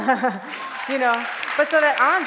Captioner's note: applause